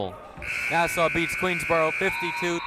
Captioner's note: siren buzzing